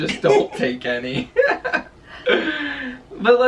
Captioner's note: both laughing